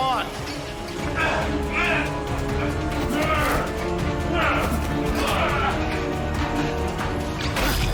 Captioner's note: dramatic suspenseful music; fighters grunting